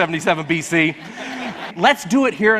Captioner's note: audience laughs